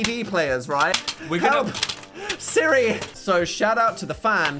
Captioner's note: CDs clattering